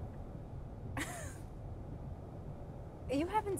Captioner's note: woman laughs